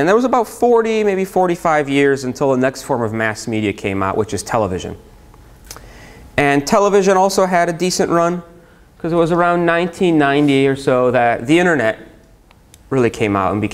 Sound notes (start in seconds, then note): none